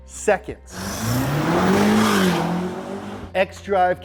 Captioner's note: car engine revs